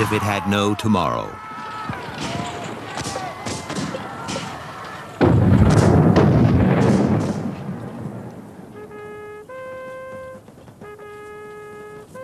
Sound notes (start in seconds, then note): 1.9 guns bang; 5.8 booming; 8.6 horn trumpets